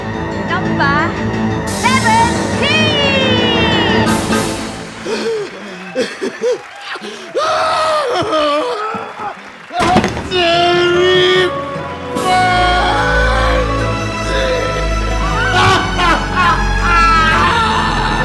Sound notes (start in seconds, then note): 4.8 heavy breathing; 6.4 screaming